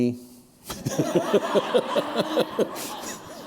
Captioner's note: laughter